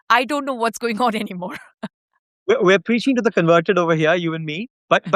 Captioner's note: chuckles